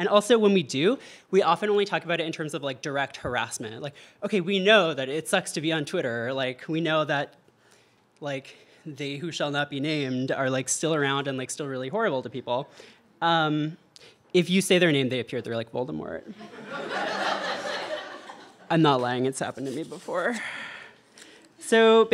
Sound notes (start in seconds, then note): 16.4 audience laughter